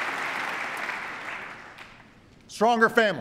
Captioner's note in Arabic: تصفيق